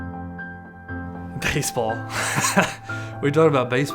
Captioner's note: laughs